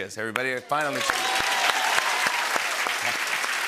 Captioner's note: cheering and applause